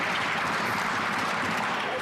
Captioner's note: some Applause